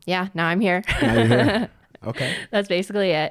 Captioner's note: laughs